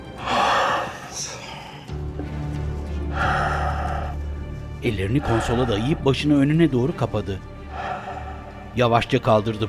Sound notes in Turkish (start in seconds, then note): 0.0 Derin soluk alma sesi; 2.2 Derin soluk alma sesi